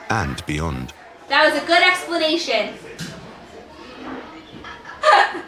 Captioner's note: laughs